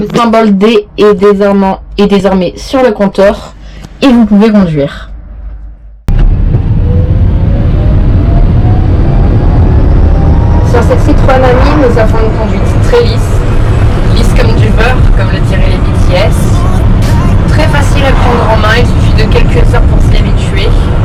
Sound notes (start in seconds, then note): 7.8 fighter jet engine go brrr